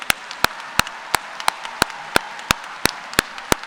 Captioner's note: applause